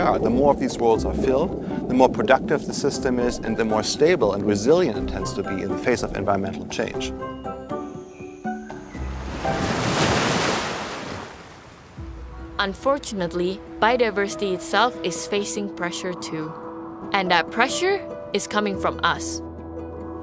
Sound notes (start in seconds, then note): 7.2 birds chirping; 7.6 upbeat music; 9.0 waves crashing